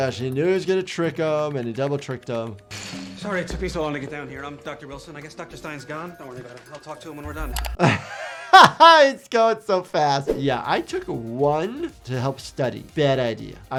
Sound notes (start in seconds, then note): 2.7 curtain rustling; 7.4 mouse clicking; 7.9 doctor sighing